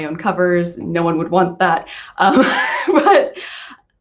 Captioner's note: laughs